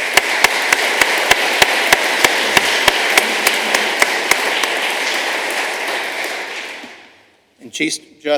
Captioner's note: applause